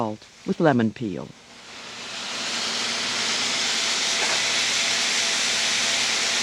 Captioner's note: pan sizzles